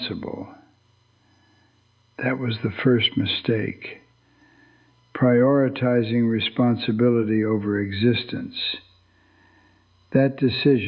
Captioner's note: whispers